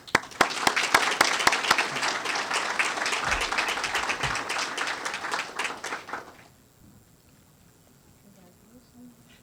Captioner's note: applause